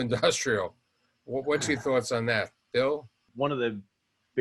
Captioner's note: chuckles